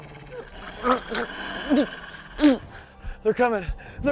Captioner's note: wolf growling